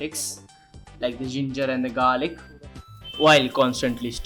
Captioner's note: with bri'sh accent